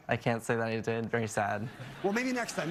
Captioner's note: laughter